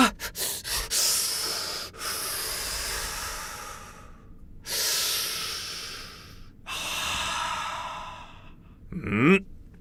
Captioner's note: inhale, exhale